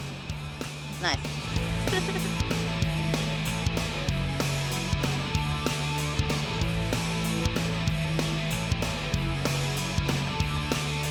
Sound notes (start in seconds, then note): 1.6 laughs